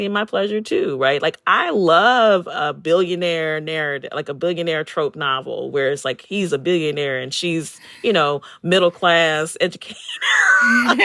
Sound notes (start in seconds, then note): 8.6 laughter